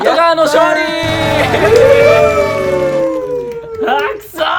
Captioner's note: cheers